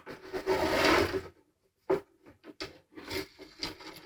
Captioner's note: metal scraping